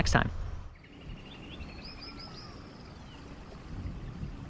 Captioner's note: birds chirping